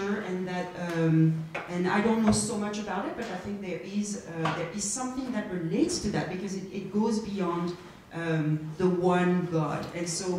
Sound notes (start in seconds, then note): none